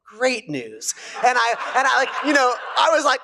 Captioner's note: laugher